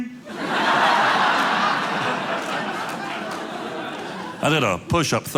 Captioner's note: audience laughing